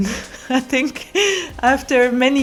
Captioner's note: laughs